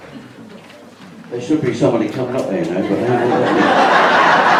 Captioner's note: audience laughs